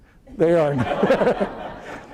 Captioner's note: laughter